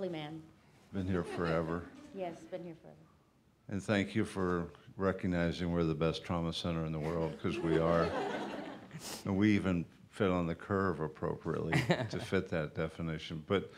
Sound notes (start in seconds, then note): 8.6 laughter